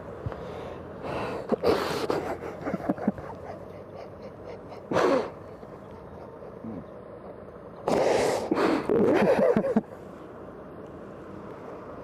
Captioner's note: crying